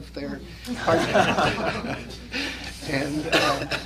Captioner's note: laughter